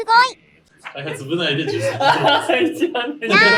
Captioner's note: laughs